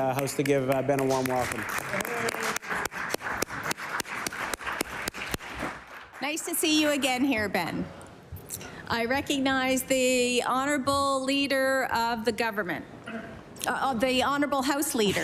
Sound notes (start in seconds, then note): 6.0 applause